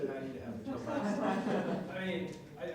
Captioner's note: audience laughing